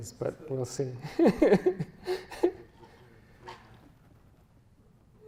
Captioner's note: chuckles